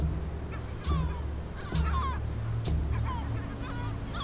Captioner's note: gulls cawing